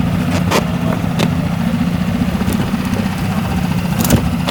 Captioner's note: boat humming